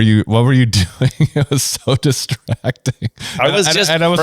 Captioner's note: laughs